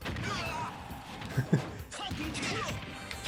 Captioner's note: laughs